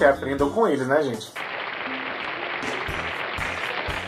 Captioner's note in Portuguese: sons de aplausos